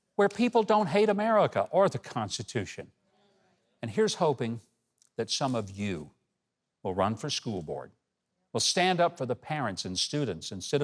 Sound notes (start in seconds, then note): none